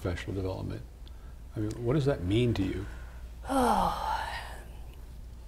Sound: sigh

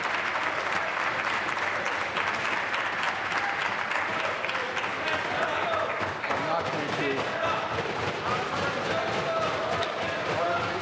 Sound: applause

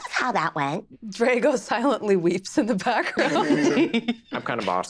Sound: laughing

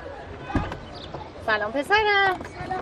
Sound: car door opening

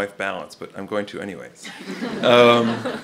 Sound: laughter

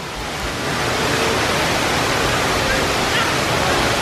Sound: loud rushing water

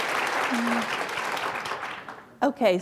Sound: applause

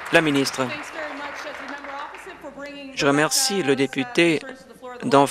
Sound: applause

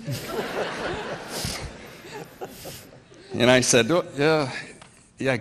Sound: laughter from audience

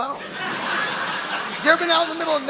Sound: audience laughing

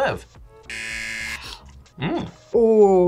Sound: buzzer rings

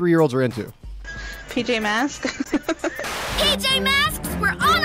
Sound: laughing

